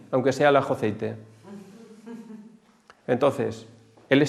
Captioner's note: laughs